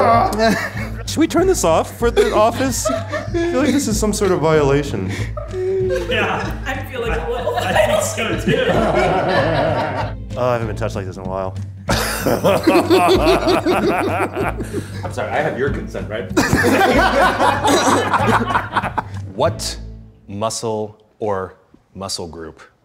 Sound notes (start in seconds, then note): 0.3 everyone laughing; 11.9 laughing; 16.4 laughing